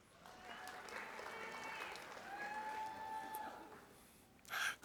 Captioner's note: audience applauding